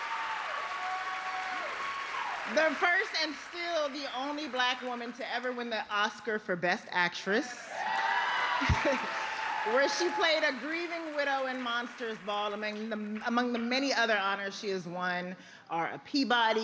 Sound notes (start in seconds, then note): 0.0 applause; 0.9 cheers and applause